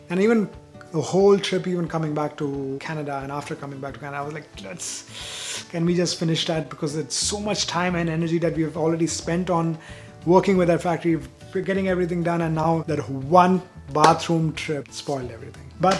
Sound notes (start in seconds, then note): 4.7 frustrated hiss